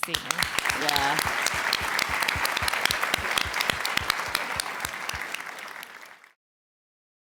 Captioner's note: applause